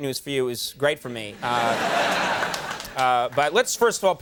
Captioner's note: audience laughing